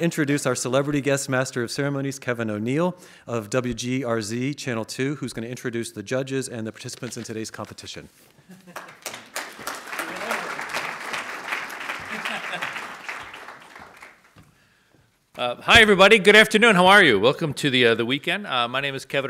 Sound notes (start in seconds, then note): 8.6 audience applauds as exits the stage; 12.2 laughs over audience applause as he enters the stage